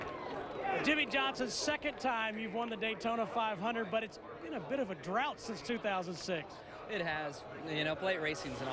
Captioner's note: cheering